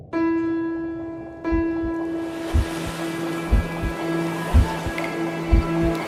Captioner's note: water dripping; waves crashing